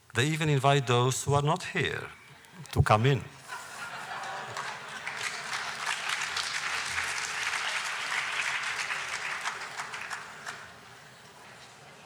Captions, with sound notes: They even invite those who are not here to come in. (laughter, applause, audience talking)